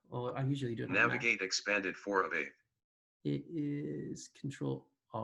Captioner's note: automated voice